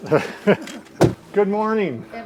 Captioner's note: both chuckle